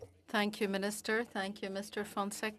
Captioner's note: speaking French